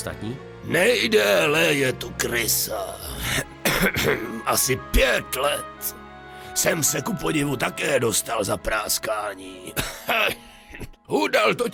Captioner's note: cough